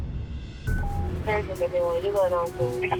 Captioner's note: dispatch radio beep